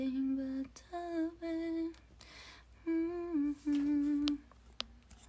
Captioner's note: humming the rest